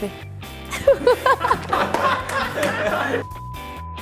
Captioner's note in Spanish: risas